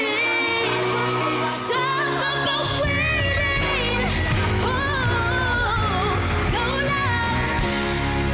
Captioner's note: audience cheering, clapping